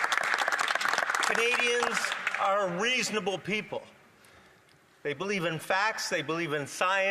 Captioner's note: some Applause